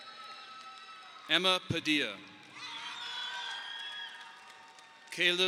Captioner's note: audience applauding